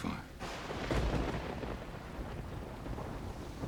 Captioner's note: thunderclap